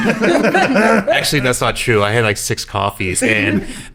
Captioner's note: laughing